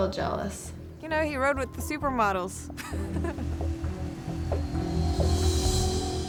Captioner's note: chuckles